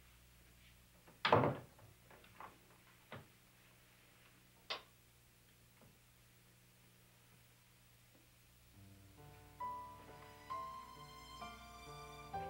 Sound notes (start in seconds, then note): 1.2 door thuds; 8.7 mellow music